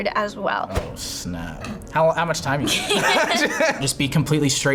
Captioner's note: laughs